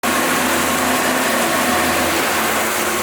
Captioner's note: motor roars